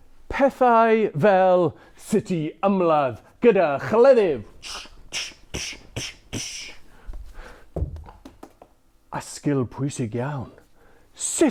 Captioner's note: horse hooves